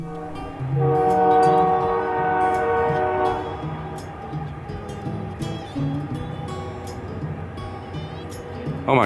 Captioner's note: train horn blaring